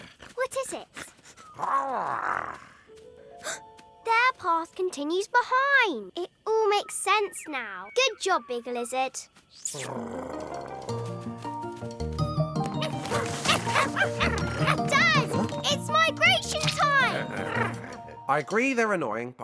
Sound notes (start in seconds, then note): 0.0 Big Lizard sniffles; 1.0 gasps; 1.6 Big Lizard exclaims; 9.5 lips smack; 9.7 big Lizard purrs; 10.4 bright cheerful music; 12.8 trilobites bark